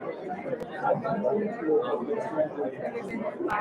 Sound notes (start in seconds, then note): 0.0 crowd chatter